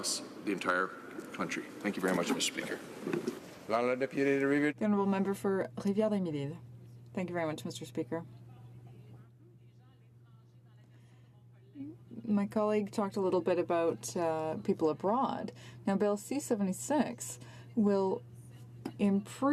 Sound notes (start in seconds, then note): 14.6 speaking French